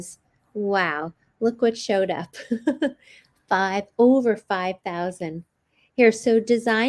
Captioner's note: chuckles